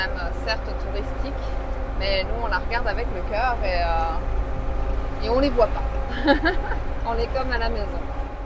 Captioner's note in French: rires